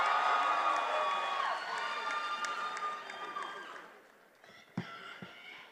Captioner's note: attendees applauding and cheering